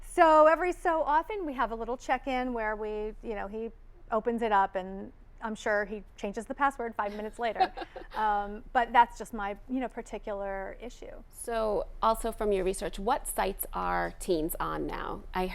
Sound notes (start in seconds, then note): 7.1 laughing